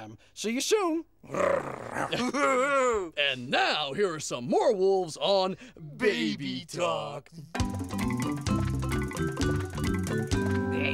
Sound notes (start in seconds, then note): 1.2 growling; 1.3 laughing